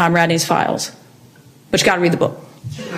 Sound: audience laughs

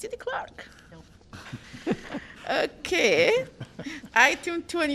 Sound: laughter

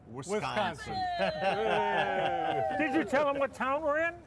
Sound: audience cheers

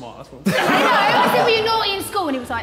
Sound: Sidemen laughing

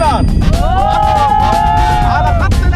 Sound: cheering

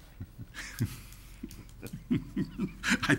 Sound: laughs

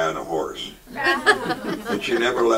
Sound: audience laughs

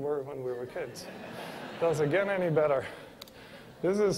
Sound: laughter

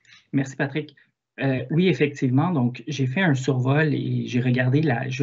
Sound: speaks in foreign language

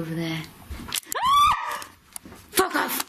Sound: screams

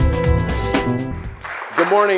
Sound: applause

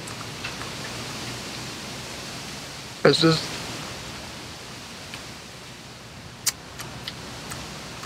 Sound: chewing

